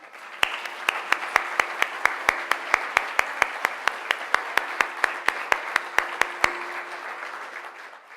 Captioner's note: applause